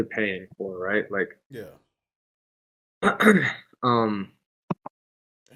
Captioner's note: clears throat